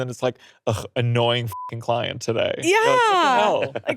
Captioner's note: beeps